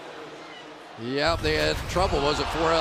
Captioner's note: pa announcement